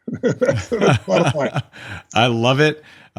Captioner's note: laughs